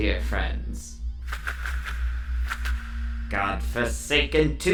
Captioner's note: wings flapping